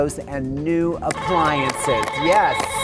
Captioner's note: buzzer beeping